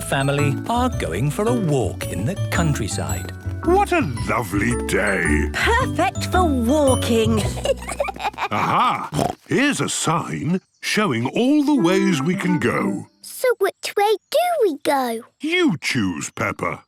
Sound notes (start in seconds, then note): 7.2 children giggling; 8.1 snorts